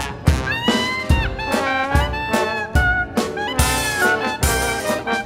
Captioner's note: none